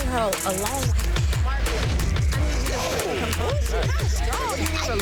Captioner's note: overlapping chatter